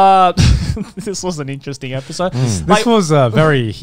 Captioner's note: laughs